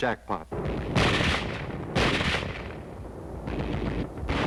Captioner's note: guns firing